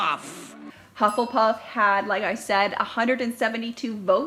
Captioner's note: dings